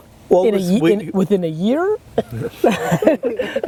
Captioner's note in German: Lachen